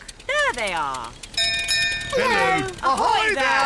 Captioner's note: bell rings; peppa and george giggle